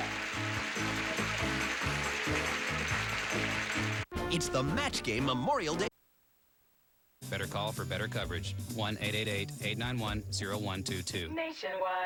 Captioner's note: audience applauding